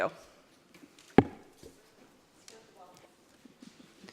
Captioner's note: chattering